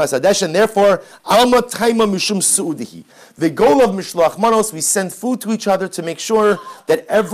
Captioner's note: Hebrew